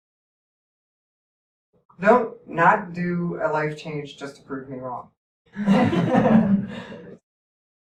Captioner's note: laughter